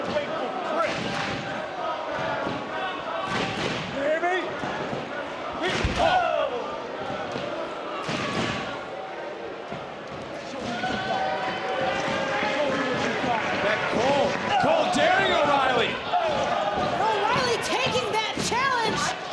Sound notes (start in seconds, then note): 6.3 audience cheering